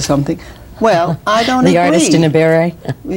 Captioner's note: laughs